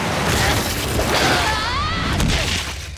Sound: grunting; screaming

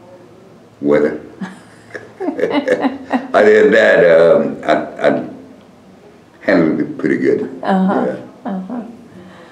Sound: laughter

